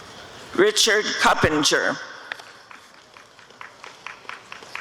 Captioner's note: applause and cheering